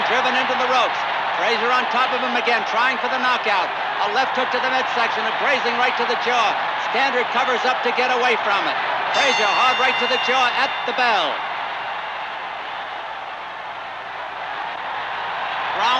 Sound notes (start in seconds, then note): 0.8 crowd cheering continues; 9.1 bell dinging; 11.7 crowd cheering continues